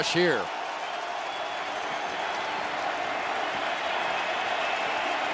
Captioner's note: cheering